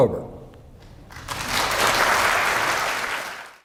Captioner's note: applauding